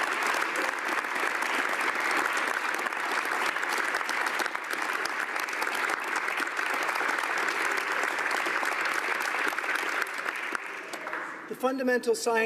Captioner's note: applause